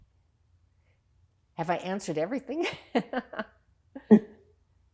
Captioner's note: laughing; pauses 6 seconds